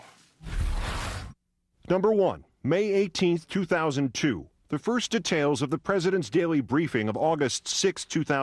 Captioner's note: voice-over